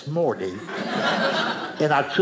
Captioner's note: audience laughing